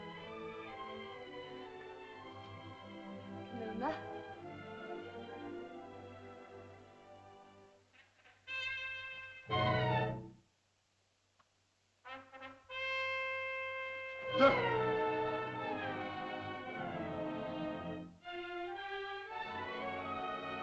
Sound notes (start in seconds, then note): 0.0 Ohtao speaks in caveman language; 0.0 soft music; 3.3 Loana speaks in caveman language; 5.4 soft music; 7.9 tense whimsical music; 14.3 tense music; 14.4 Tumak grunts